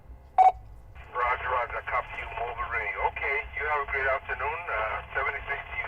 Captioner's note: ham radio chatter